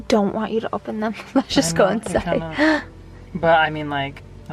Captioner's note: softly chuckling